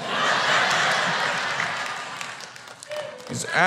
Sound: audience laughter

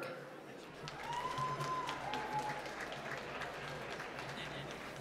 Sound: applause

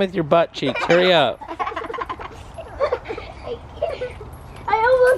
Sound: laughing

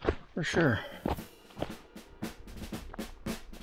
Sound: lively drum music; footsteps crunching

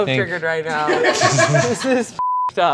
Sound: crew laughing; beep

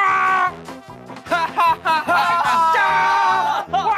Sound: A happy laughter

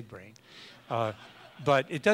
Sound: audience laughs

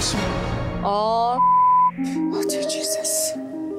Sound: beep

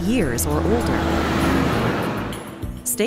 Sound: truck passing

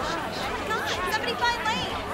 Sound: crowd murmuring

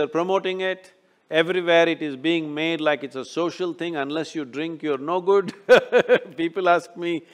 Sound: laughs

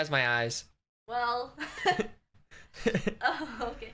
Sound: both laughing

